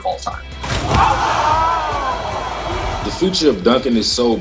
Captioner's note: crowd cheering